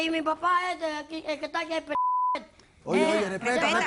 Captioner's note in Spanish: Bip